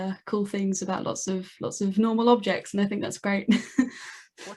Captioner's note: laughs